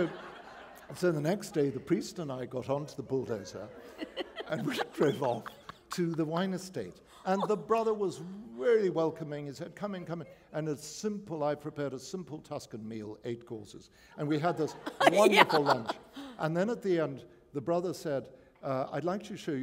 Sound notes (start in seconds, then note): 0.0 laughter; 14.4 laughter